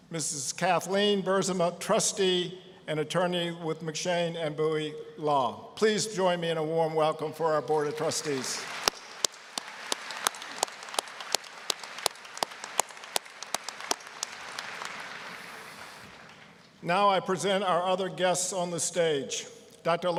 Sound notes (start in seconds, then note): 7.8 applause